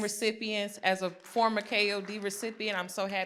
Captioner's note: applause